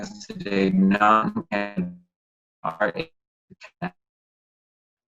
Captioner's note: microphone cuts out